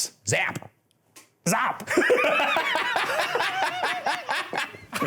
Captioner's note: laughing